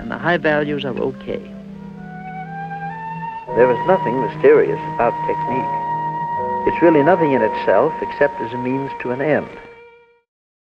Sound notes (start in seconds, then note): 3.7 voiceover